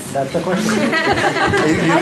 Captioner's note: laughter